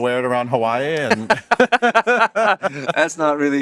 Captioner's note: both laugh